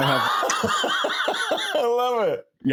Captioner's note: laughing